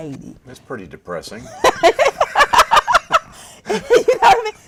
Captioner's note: laughter